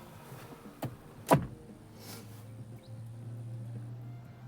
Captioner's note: clunk